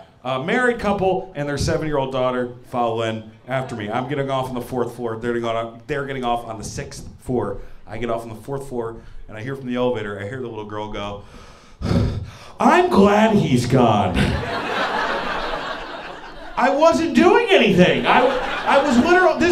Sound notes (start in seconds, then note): 14.1 laughter